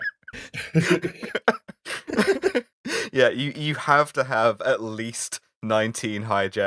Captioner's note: laughter